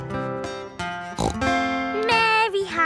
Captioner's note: playing guitar; snorts